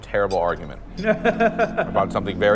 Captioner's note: friend laughs